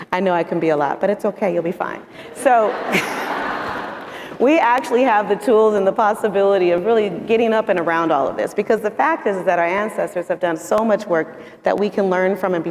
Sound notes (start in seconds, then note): 2.3 audience laughing